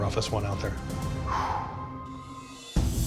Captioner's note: exhales sharply